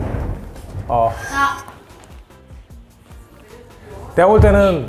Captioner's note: bursts into laughter